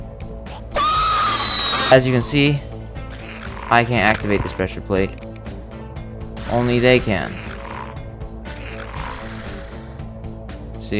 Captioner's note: irritating Screeches